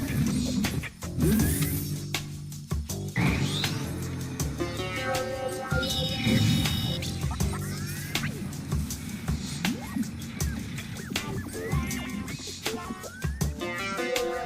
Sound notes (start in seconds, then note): 5.6 incoming call